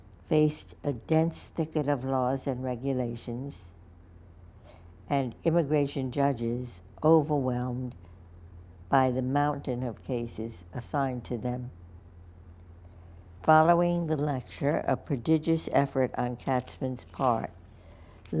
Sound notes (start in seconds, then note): none